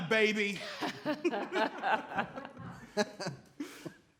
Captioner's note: all laugh